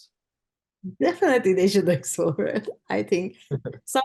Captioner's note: chuckles